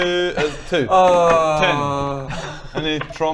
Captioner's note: AAWWWWWWWWWWWwwwrrrgghh